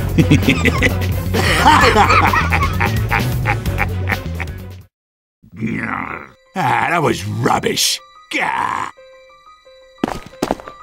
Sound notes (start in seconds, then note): 1.3 sniper Laugh